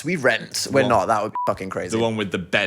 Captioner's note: beep